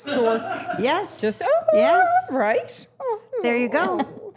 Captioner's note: cooing